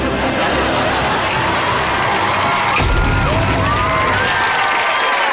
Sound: cheering, applauding

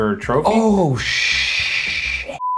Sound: beep

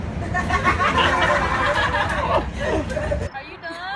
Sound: everybody laughing

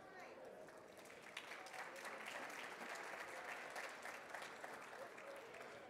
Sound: audience clapping

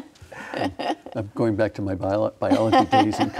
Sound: laughs

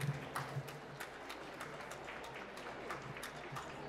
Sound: applause

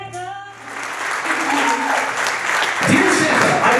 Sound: applause

